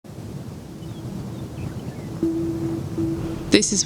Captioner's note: bird song